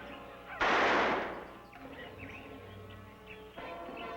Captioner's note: gun firing